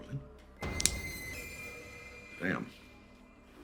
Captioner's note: suspenseful music; knife snapping